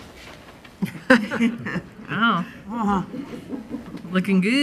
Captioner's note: laughing; woman's Voice